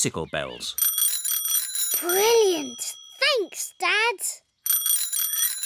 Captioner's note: bells ring